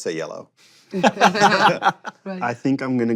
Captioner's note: laughs